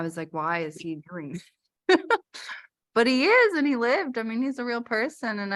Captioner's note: laughter